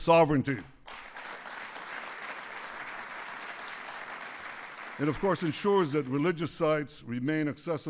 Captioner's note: applause